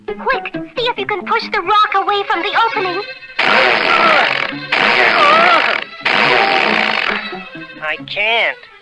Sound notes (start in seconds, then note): 3.3 Underdog struggles & sputters